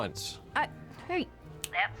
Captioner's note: snaps fingers